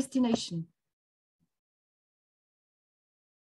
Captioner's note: silence